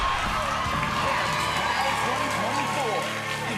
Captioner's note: cheers and applause